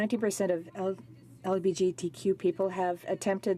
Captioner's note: speaking french